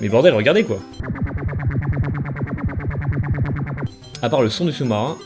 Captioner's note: submarine sounds